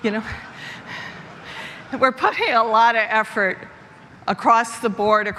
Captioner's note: laughter